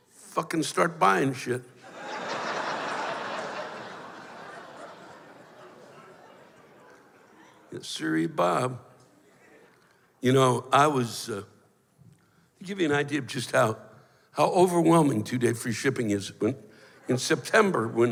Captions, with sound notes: Fuckin' start buyin' shit. [laughter] Yesiree, Bob. You know, I was, uh... I'll give you an idea of just how-- how overwhelming two-day free shipping is, when, in September,